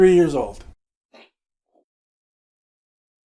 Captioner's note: spits out beer, startled; silence